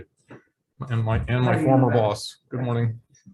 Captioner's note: man speaking